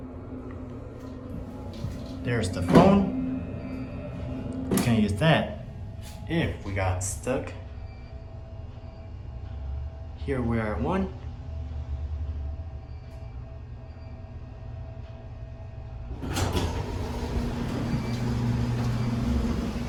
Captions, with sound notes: There’s the Phone (Phone Door Opens) (Phone Door Closes) Can use that If we got stuck Here We are at 1 Door Opens